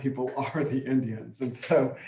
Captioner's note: chuckles